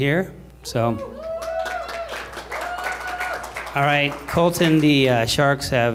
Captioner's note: applause